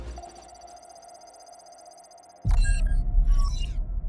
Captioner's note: screen bleeping